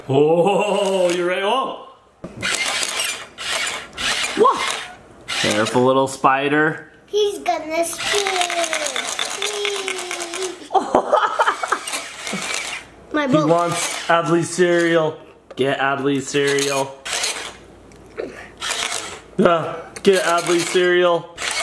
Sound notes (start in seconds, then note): 2.4 electronic whirring noises; 10.6 laughs; 17.0 electronic whirring noises